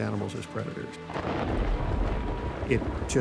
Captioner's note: thunder rumbling